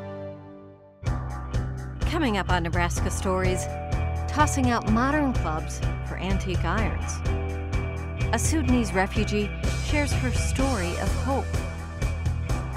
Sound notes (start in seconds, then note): 0.0 theme music; 2.1 voiceover